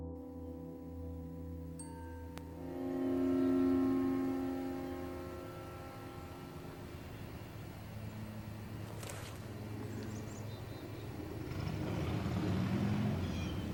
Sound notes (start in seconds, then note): 9.8 river - Birds chirping - Crickets